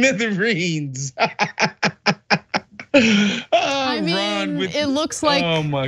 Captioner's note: laugh